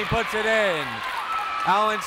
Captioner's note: crowd cheers